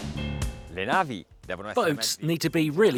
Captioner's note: speaking Italian